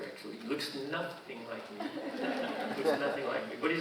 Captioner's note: audience laughing